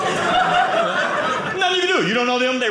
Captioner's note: audience laughing